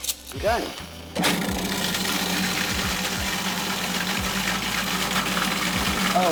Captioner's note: food processor grinding